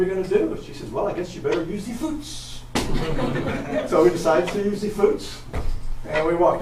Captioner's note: audience laughs